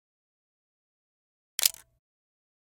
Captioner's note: camera shutter